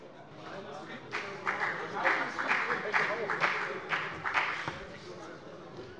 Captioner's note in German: Beifall bei der FDP